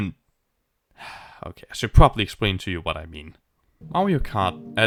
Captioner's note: sigh